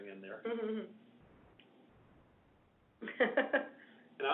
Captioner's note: laughs